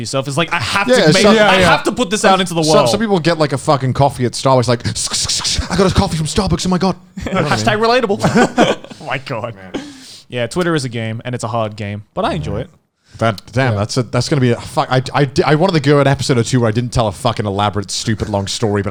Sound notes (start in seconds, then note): 7.2 all laughing